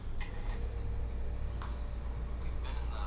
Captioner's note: none